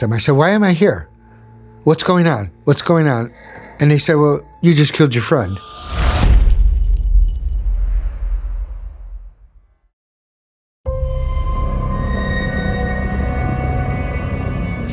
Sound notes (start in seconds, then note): 5.8 impact